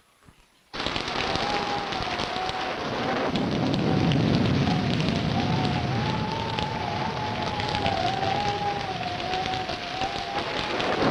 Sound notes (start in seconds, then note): 0.7 thunder rumbling; 0.7 wind howling